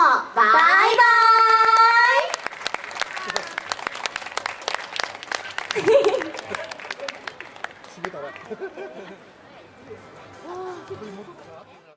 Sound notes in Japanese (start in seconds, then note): 0.8 拍手